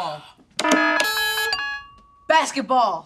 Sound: buzzer sounds

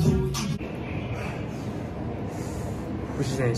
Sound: deep breath

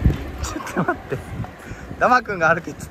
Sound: haha

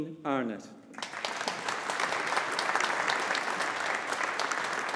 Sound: audience applauding

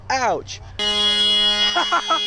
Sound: car Honk

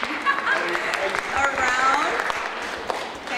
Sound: audience applauds

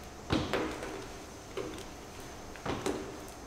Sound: none

